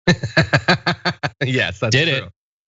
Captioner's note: laugh